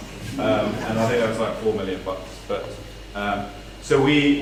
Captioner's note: laugh